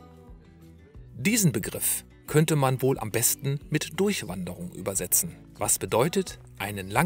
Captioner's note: German